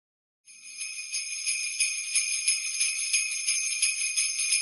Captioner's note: bells jingling